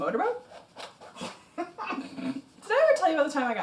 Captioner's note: laughing